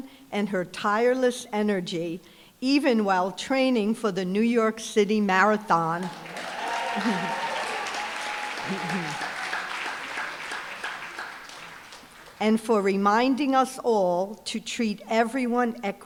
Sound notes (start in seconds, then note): 6.0 applause, cheering; 8.6 chuckles